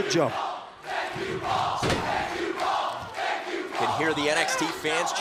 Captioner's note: crowd cheering